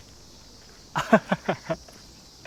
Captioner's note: laughs